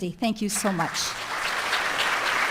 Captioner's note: applause